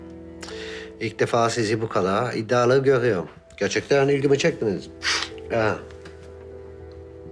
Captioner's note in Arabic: شم